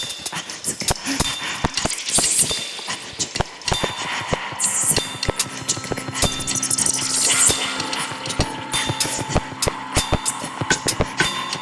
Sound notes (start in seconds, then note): 1.2 rapid breathing; 6.1 percussion music